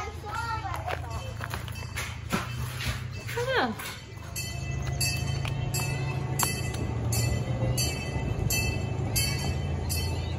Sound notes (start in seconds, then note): 5.7 train bell clanging